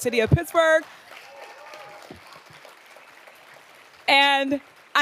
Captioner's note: audience applauding